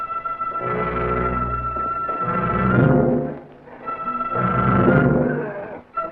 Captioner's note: suspenseful music; footsteps racing; serpent growls